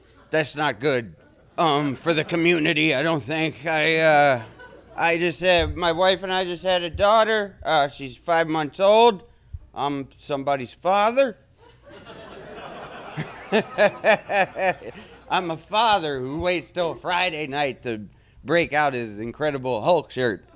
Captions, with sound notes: That's not good, for the community, I don't think. I just have, my wife and I just had a daughter. She's five months old. I'm somebody's father. [Laughter] I'm a father who waits 'til Friday night to break out his Incredible Hulk shirt.